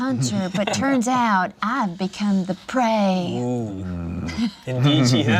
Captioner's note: laughs